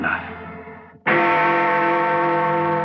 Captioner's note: Bell Tolling